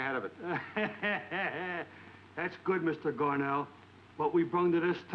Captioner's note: laughs